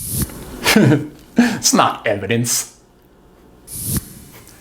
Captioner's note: laughs